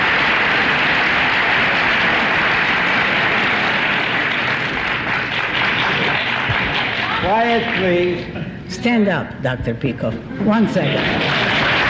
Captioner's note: applause; applause